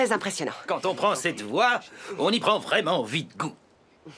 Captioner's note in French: avec un accent